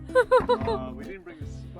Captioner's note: laughing